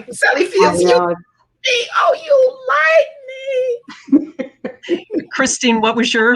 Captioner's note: laughing